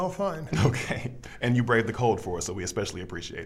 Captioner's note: chuckling